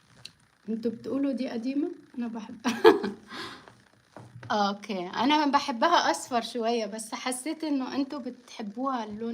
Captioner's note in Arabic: ضحك